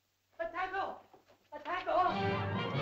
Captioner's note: man shouts "food" in caveman language; suspenseful music